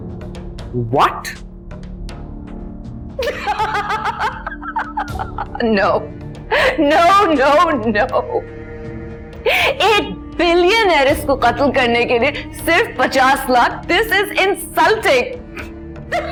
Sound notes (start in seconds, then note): 7.2 laughingly